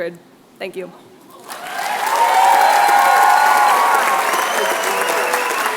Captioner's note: cheering